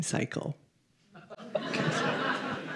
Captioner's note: laughter